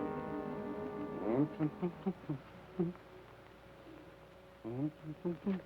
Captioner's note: Joshua hums melodically